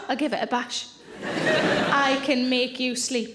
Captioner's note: audience laughing